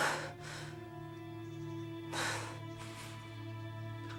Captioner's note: hard breathing